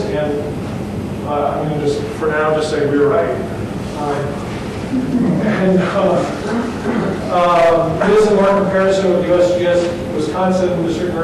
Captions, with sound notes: And I'm gonna just for now just say we are right. (group chuckles) And this is intercomparison of USGS Wisconsin,